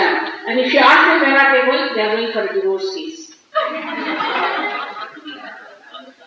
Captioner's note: laughter